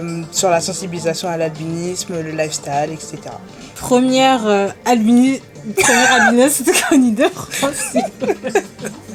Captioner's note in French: rires